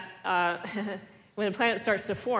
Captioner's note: laugh